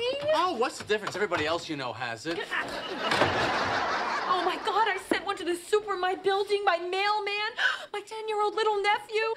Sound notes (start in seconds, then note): 7.6 gasps